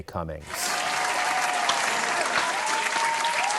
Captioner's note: cheering